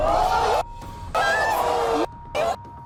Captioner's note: groaning